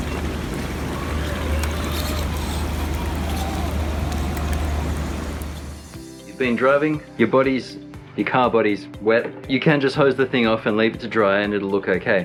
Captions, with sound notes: You've been driving, your body's... your *car* body's wet. You can just hose the thing off and leave it to drive and it'll look okay.